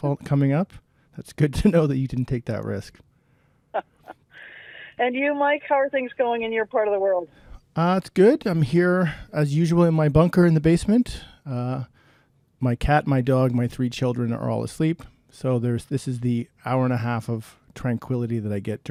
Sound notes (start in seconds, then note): 3.8 laughing